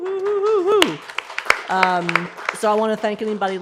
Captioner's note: applause